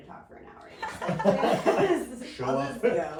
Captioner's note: laughing